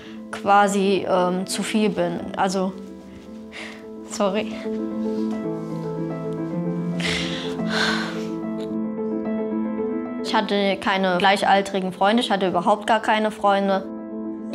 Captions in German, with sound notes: quasi zu viel bin. Also ... (Sie seufzt.) Sorry. (Gefühlvolle Musik) (Schluchzen) Ich hatte keine gleichaltrigen Freunde, ich hatte überhaupt gar keine Freunde.